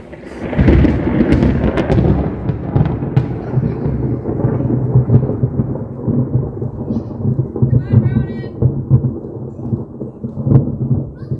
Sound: super loud thunder booms; thunder quiets down

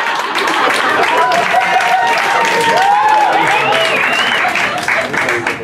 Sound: applause

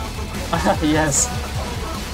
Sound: chuckles

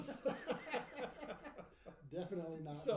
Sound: laughing

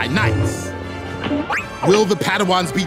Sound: beeping

